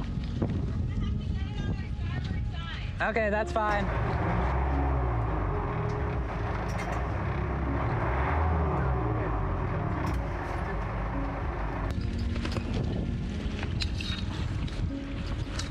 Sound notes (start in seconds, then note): 4.6 engine whirring; 12.2 metal clanging softly